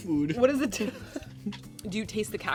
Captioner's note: laughs